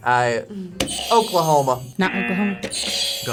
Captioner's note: buzzer buzzes; button chiming